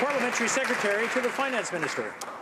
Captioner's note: some Applause